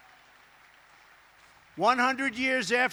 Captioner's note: applause